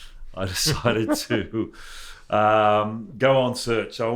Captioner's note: chuckles